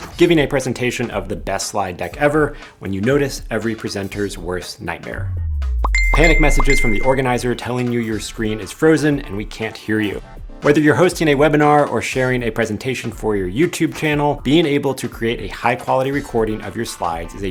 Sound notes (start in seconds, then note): 5.9 bell dinging